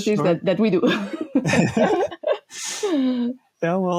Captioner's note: people laughing